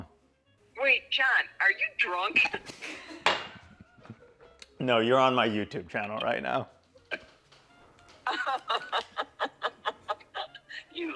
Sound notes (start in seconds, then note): 2.7 laughing; 8.2 mom laughing